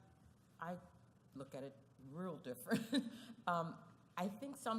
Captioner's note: laugh